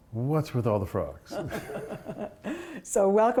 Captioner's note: laughter